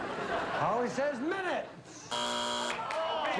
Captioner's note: buzzer